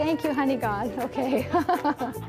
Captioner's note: laughs